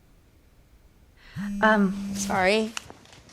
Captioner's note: phone vibrating